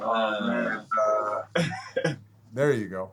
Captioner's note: laughs